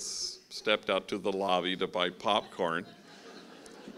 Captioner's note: laughing